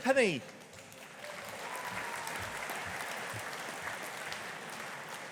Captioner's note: audience applauding